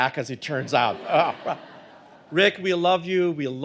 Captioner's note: audience laughing